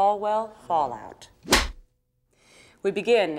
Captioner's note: scene clapper makes clapping noise